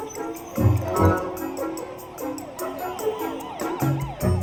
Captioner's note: whimsical music; sirens wailing